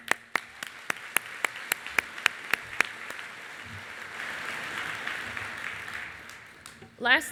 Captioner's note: applause